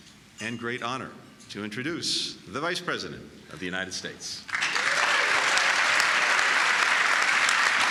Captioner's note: applause